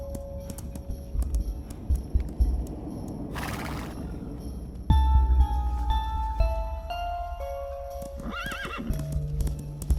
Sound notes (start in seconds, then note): 3.0 neighing